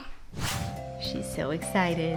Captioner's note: wooshing